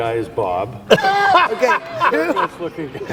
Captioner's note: laughs